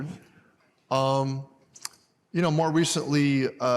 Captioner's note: none